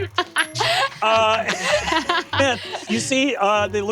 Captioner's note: laughs; wink chimes